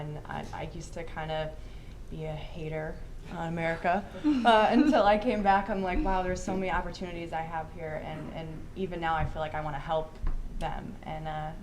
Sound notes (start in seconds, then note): 4.2 all chuckling